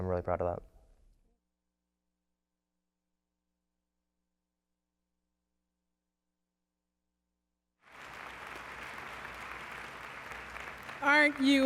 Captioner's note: applause